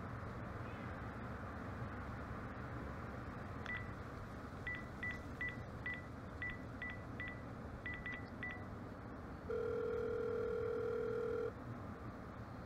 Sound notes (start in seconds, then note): 3.6 phone dialing; 9.5 inside phone ringing